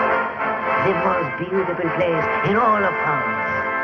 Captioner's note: bell